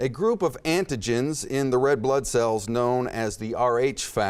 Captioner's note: none